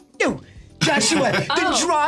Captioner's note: SungWon laughs